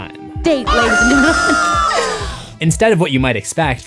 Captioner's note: squawk SFX